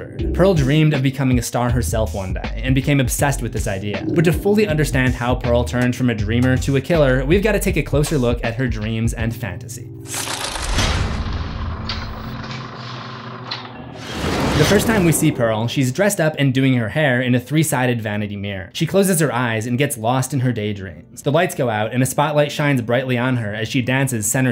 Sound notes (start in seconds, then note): 10.2 impact